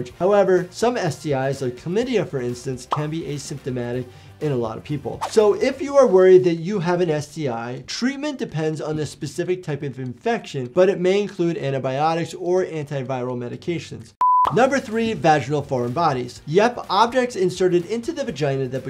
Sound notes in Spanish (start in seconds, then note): 14.2 pantalla pitando